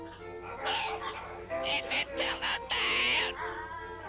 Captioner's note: parrot squawking